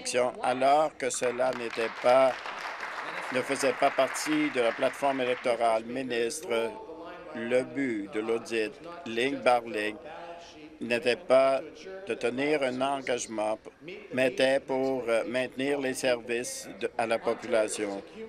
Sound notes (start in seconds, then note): 5.4 applause